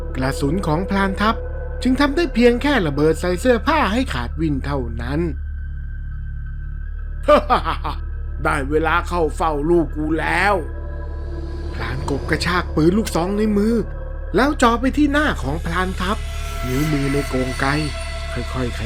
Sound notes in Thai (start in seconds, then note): 7.2 เสียงหัวเราะ